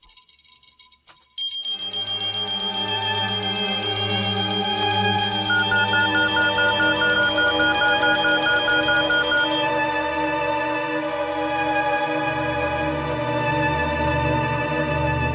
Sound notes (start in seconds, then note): 7.5 alarm sounds loudly; 12.3 dramatic music